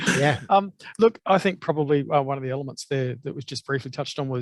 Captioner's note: laughs